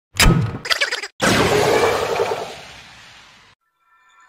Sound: transformation noises

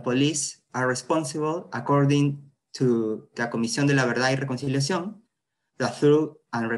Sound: spanish

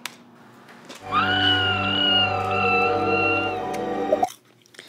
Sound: woman screaming on TV

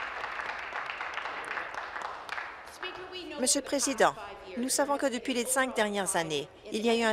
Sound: applause

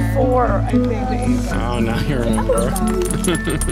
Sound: chatter

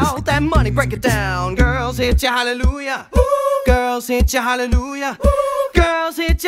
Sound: woo; woo

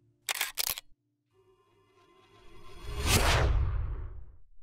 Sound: camera shutter clicks

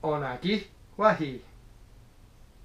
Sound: speaking Mohawk

